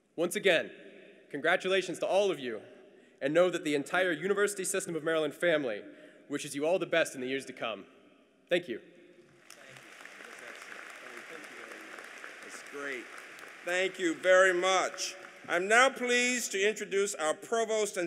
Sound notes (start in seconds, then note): 9.4 applause